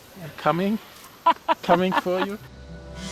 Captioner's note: laughs